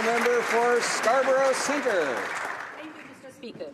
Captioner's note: applause